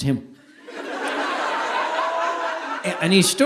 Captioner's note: audience laughing